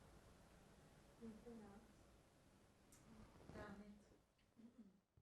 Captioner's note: hebrew